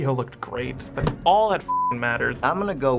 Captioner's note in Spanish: beep